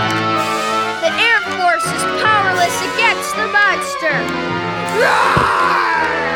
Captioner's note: roars